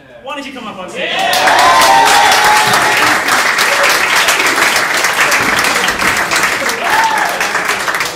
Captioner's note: audience cheering